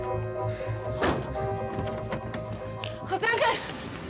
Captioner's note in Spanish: portazos